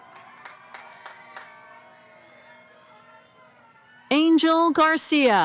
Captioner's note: cheering